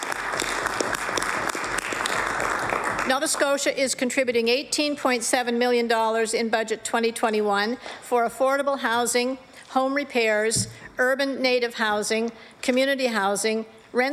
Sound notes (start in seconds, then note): 6.6 applause